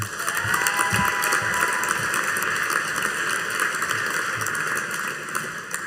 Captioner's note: audience cheering and applauding